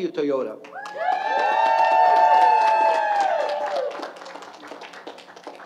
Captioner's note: applause and Cheers